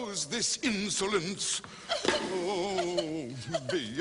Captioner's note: Bianca weeps